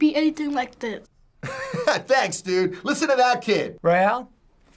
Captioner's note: laughing